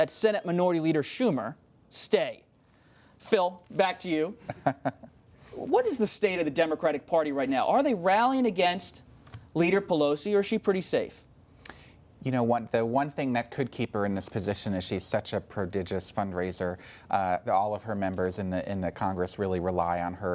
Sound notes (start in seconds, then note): 4.4 laughter